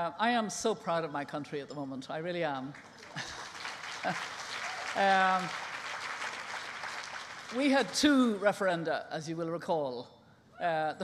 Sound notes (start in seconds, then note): 2.7 applause